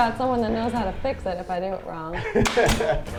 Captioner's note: laughs